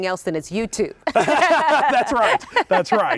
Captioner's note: both laughing